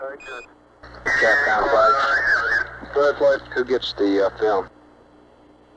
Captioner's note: mission Control Audio